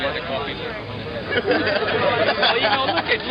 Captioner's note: laughing